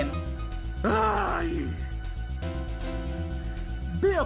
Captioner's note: groans in frustration